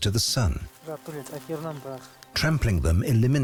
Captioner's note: speaking Quechuan